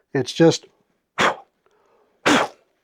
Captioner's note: panting